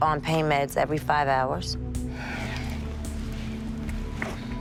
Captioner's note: sniffles